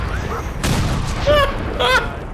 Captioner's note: laughing